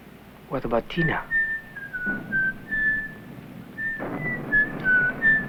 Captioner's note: whistling